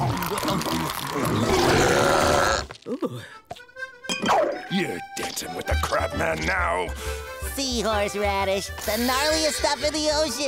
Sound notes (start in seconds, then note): 0.0 belching